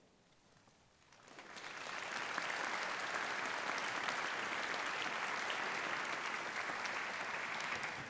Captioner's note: applause